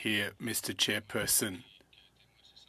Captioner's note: speaking French